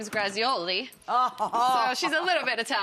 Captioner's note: Rachael laughs